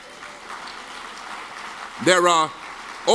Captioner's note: audience claps